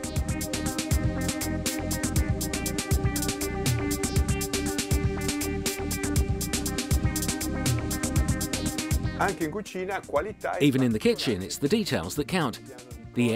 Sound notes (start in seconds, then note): 0.2 soft electronic music; 9.6 speaking foreign language